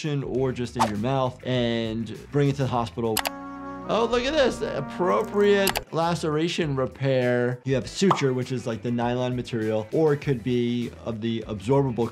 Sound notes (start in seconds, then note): 2.9 tender music; 3.1 mouse clicks